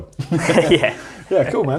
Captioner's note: laughs